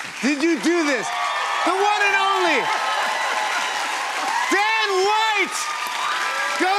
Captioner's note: cheers and applause